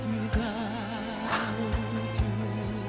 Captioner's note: laughs in amazement